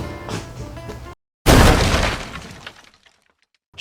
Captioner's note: smashing noises